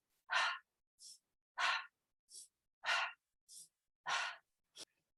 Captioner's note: sharp inhalation, sharp exhalation; repeating sharp inhalation and sharp exhalation